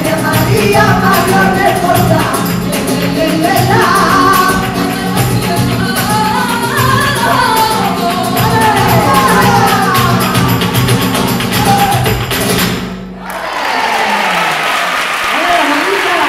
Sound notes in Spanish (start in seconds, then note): 8.6 aplausos